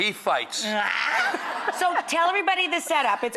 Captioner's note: laughter